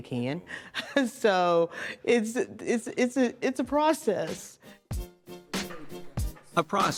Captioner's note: laughs